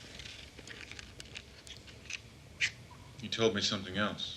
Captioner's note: match scratches